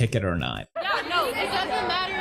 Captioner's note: talking